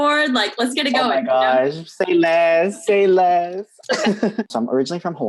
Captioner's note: laughs